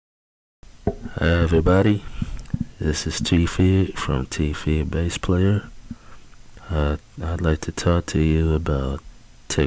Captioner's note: male Speaking